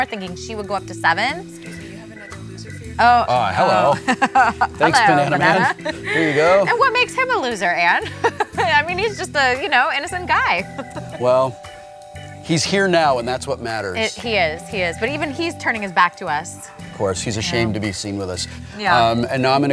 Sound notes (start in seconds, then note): 8.4 laughs